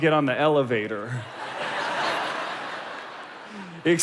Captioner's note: crowd laughing